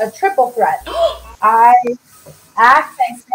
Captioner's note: gasping